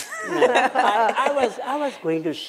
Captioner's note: laughter